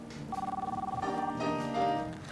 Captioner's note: ring